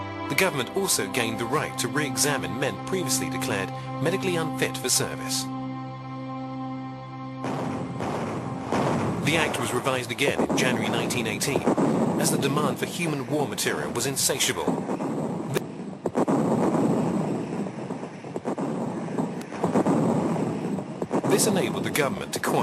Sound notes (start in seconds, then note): 7.4 heavy artillery booming; 16.1 heavy artillery booming